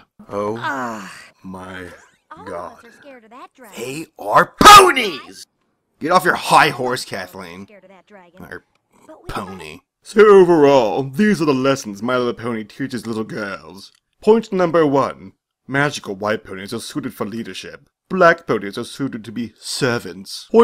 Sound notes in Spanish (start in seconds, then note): 9.0 murmullo